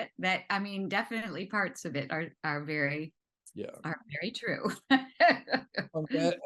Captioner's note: laughs